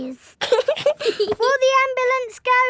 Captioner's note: both giggling